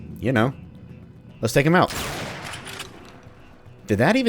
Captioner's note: railgun fires